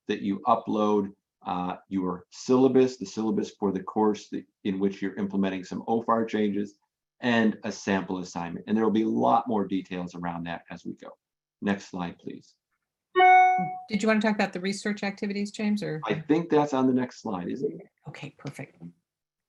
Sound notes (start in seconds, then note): 13.2 audio feedback